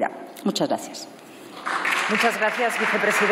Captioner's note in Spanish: Aplausos